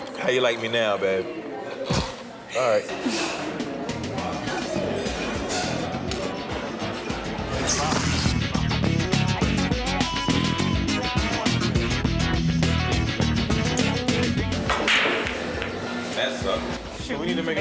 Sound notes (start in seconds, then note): 4.8 upbeat music; 14.6 balls clacking